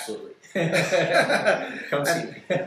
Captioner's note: laughter